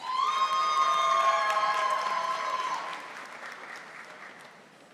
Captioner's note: audience applauding